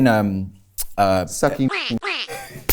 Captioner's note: laughs